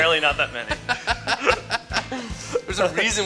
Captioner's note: laughter